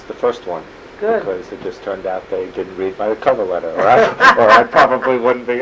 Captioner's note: laughter